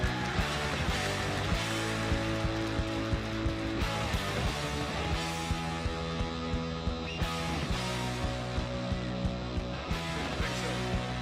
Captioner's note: applause